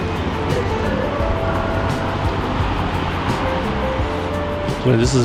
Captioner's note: wind Blowing